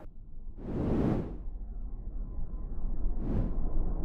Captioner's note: wind rushes